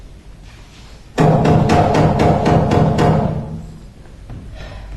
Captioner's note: there is knock on the door